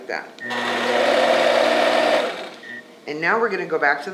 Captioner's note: machine whirring